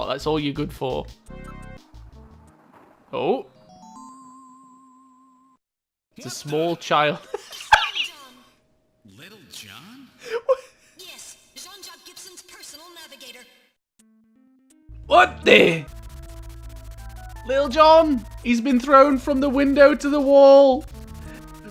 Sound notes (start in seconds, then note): 7.0 laughter